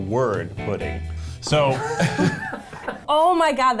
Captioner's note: laughing